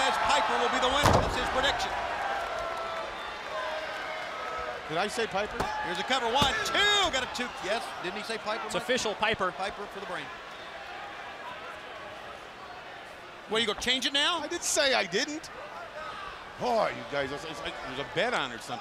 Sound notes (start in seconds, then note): 3.3 crowd chatter; 14.6 crowd chatter